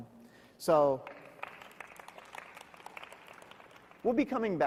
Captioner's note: audience applauding